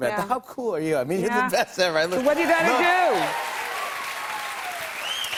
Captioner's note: cheers and applause